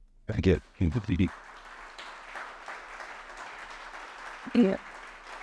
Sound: audience applauding

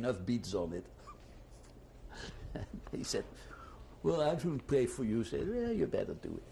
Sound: laughs

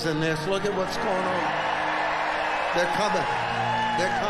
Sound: audience cheers loudly

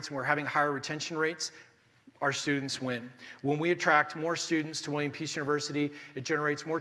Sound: none

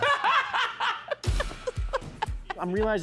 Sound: laughs

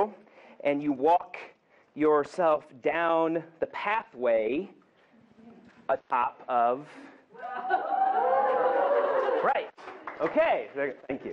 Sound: whoops and clapping from the audience

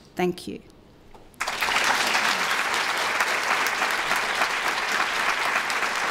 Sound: applause

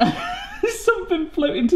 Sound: laughs

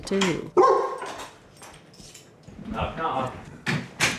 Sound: dog barks

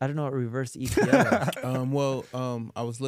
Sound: laughing

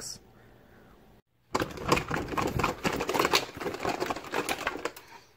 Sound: loud chaotic flopping noises

